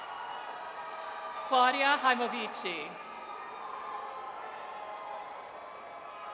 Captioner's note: audience cheers